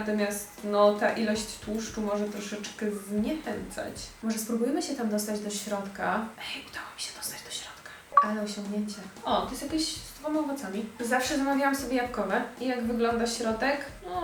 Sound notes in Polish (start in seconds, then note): 8.1 szepcze